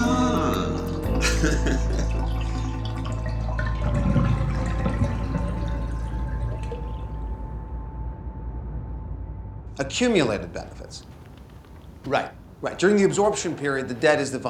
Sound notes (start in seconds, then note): 0.4 laughs